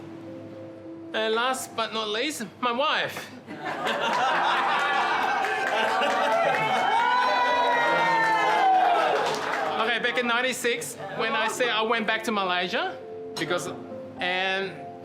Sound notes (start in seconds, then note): 3.5 laughter and applause; 6.1 cheering